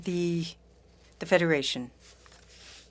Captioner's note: speaking French